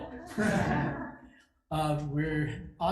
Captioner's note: group laughs